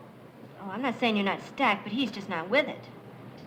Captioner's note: none